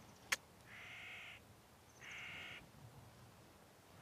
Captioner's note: birds cawing